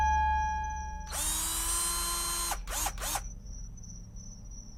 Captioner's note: drill buzzing